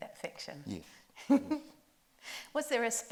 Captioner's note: chuckles